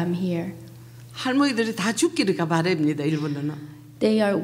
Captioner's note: speaking foreign language